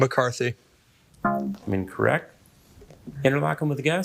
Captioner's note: buzzer ringing; buzzer beeping